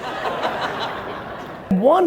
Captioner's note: audience laughing